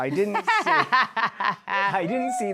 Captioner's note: laughing